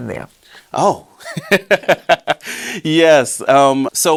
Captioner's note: both laughing